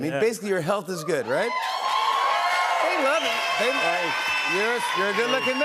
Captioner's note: cheers and applause